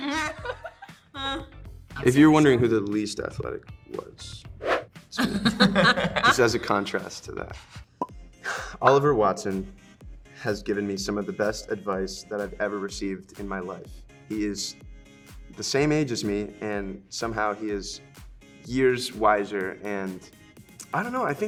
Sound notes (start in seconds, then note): 0.0 Joy and Emma laughing; 5.2 multiple laugh